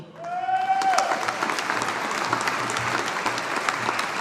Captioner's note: audience applauding